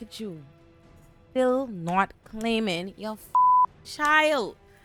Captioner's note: beep